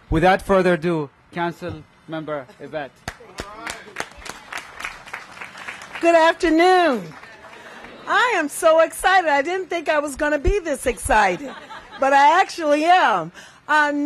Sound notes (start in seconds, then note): 3.0 applause